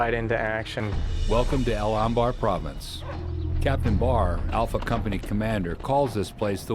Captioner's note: voiceover